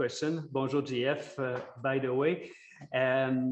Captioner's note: speaks foreign language